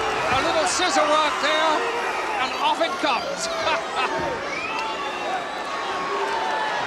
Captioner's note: chuckles